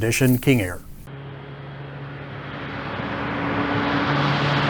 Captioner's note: airplane roaring